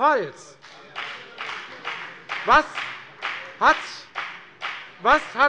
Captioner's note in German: Beifall bei der FDP